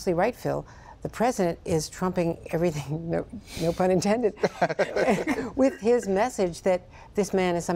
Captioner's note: laughter